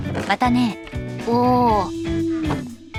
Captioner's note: exhales